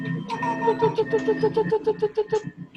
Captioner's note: animals squeaking